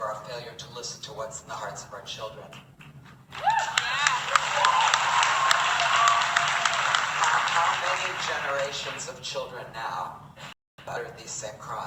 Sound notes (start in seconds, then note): 3.3 audience Cheering